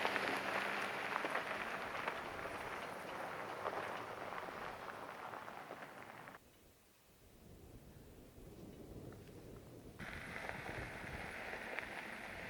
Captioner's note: wind blowing